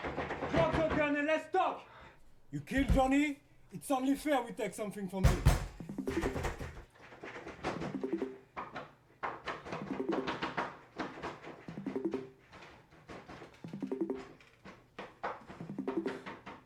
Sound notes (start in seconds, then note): 0.0 banging on the door; 5.2 banging on door continues; 7.8 computer Bleeping